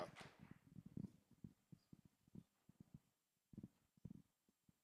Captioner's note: applause